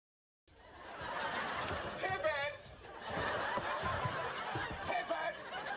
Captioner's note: audience laughs